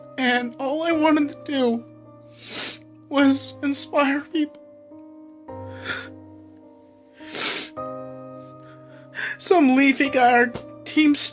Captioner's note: sob